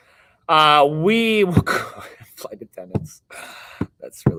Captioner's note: chuckles